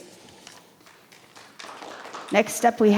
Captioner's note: audience clap